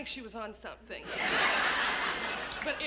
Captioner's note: laughter